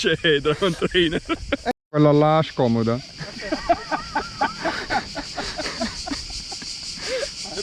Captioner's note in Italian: Risate